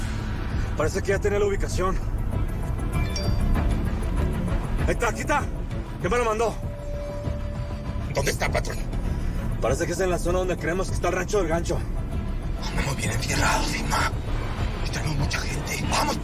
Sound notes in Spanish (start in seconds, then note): 3.0 Aviso de mensaje entrante